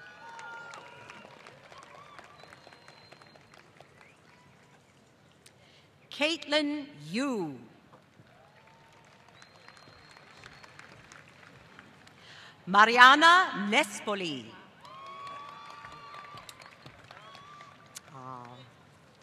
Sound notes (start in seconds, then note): 0.0 applause; 8.0 applause; 14.7 applause